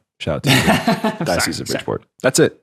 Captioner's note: laughing